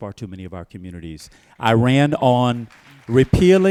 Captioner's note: applause